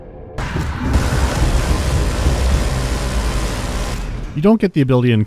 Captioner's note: bzzzzzzt